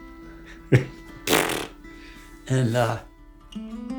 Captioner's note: blowing raspberries